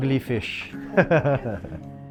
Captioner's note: laughs